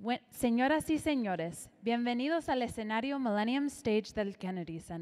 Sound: announcer speaking in Spanish

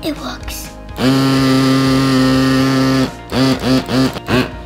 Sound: motor rumbles loudly

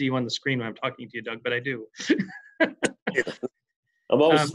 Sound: laughs

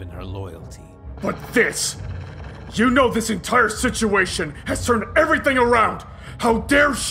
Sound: snarling

